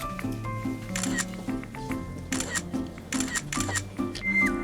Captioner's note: click